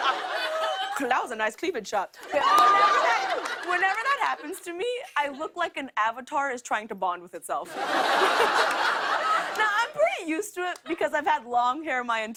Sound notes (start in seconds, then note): 2.2 laughter, cheering; 7.6 laughter